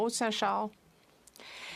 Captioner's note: speaking French